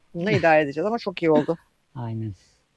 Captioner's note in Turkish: boğazını temizler